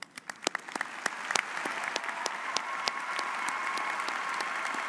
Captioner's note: audience applauds